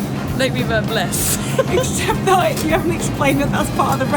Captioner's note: both women laugh